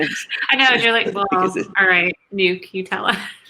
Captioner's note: laughs